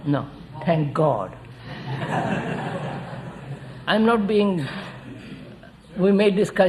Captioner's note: laughter